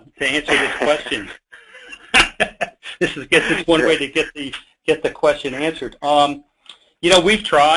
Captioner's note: laughing